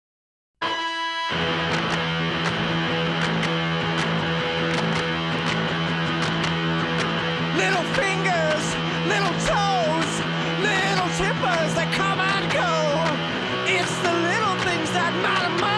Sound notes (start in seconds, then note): 2.2 rhythmic clapping